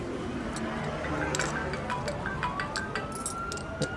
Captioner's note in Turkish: cep telefonu çalar